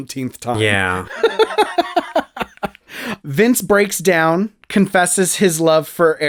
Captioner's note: laugh